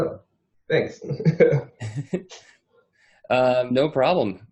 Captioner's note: both men chuckle